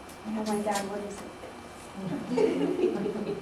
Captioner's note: laughter